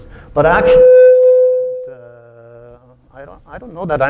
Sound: feedback

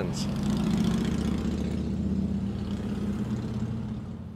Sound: motorcycle revving

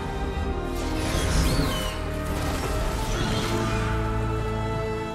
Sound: bird screeching

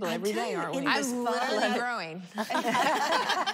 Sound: laughter

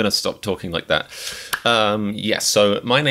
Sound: in a strange voice; breathes in and claps

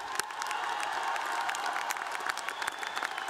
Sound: cheers and applause

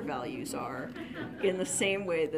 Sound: audience laughs

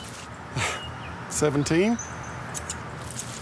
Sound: chuckles

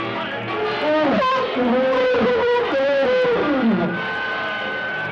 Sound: elephants yelling

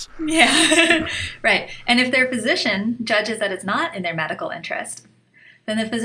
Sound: chuckle

